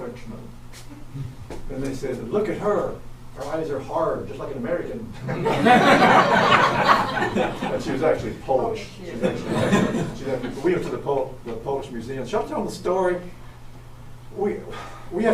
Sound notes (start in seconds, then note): 5.2 audience laughs very loudly